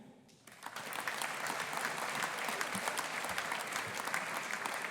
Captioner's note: audience applauding